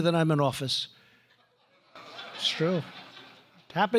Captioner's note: laughter